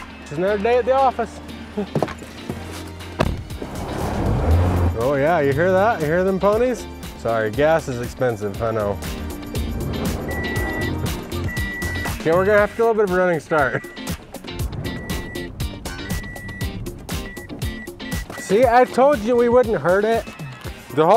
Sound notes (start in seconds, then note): 3.1 car door closing and engine revving; 9.5 engine revving and loud beeping; 14.8 loud beeping